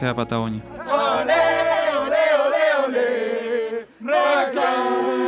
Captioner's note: in Spanish; chanting